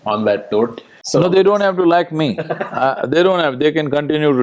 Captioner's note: Tanmay Bhat laughs